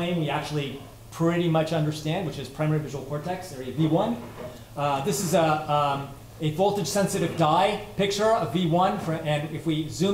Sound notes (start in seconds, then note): none